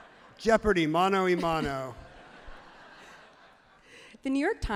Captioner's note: everyone laughs happily